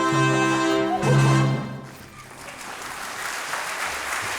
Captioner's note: audience claps